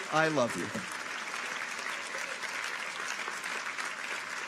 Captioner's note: audience applauds